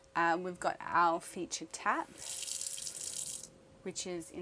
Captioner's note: water running